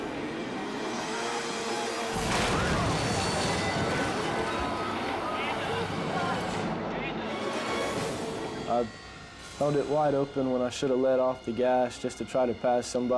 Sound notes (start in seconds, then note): 2.0 jet ski thuds; 4.8 dramatic music